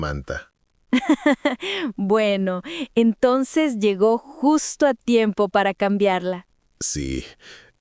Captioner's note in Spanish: ríe